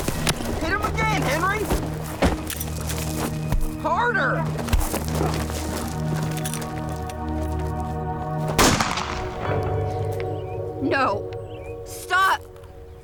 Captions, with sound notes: Hit him again, Henry. Harder! (gunshot) No! Stop!